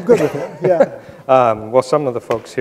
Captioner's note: both laughing